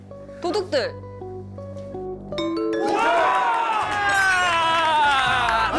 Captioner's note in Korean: 딩동댕 소리